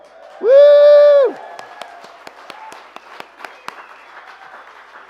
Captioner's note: applause